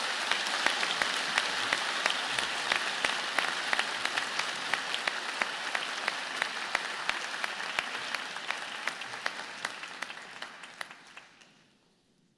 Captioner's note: applause